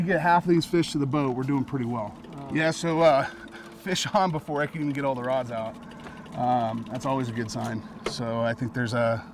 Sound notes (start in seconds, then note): 2.9 chuckling